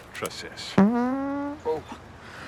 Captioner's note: ppbbllttt